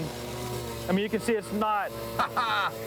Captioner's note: laughing